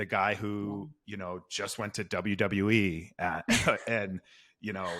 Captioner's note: laughs